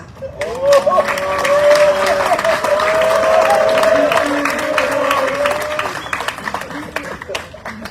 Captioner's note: audience cheering, applauding